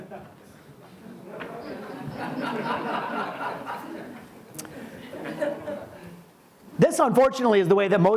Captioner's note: audience laughs